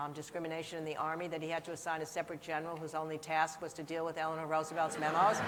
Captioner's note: laughter